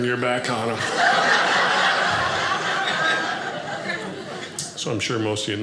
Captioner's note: audience laughing